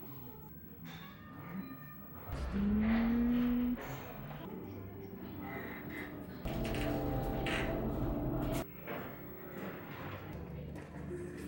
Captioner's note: laughs